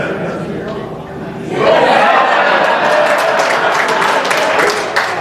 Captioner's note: laughter